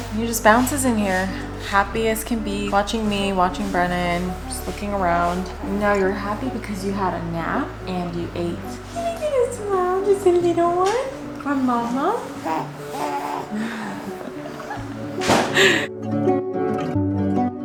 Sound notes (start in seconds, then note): 11.8 baby mumbles; 14.8 upbeat music